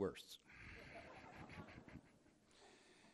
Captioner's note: laughter